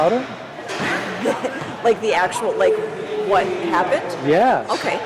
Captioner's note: laughing